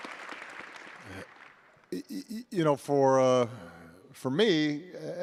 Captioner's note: applause